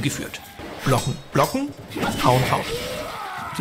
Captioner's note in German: Schmerzenslaute